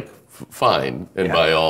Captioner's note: laughing